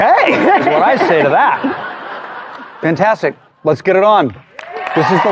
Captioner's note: audience laughing